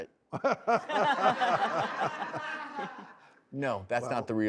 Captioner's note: laughing